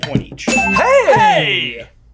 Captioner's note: bell dings